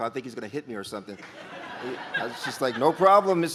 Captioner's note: audience laughs